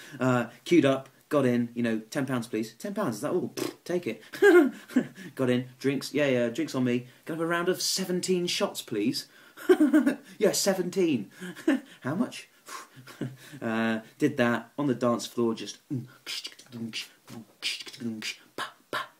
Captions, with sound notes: Cued up, got in, you know, ten pounds a piece. Ten pounds, is that all? (blows raspberry) Take it. (laughs) Got in, drinks, yeah, yeah, drinks on me. Can I have a round of 17 shots please? (laughs) Yeah, 17. How much? (exhales) Did that, on the dance floor, just (vocalizing).